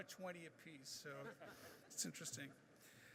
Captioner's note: laughing